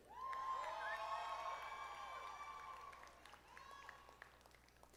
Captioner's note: audience applauding